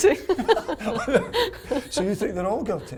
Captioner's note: both laughing